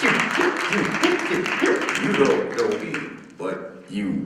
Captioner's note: beatboxing